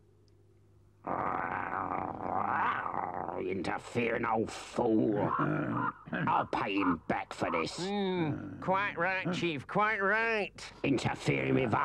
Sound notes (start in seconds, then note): 1.0 Chief Weasel growls